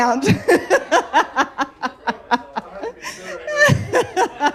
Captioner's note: laughter